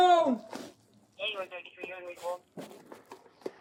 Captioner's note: radio chatter